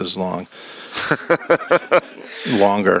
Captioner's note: laughs